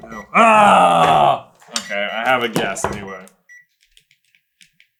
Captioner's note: gentle beeping